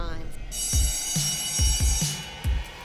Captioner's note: school bell ringing; dynamic music playing